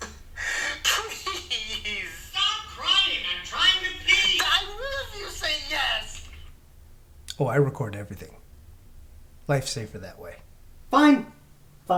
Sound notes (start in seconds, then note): 0.0 on recording, weeping; 0.2 recording playing from phone